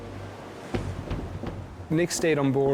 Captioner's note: water whooshing; ship pounding